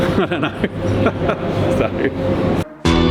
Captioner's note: laughs